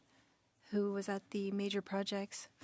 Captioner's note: speaking French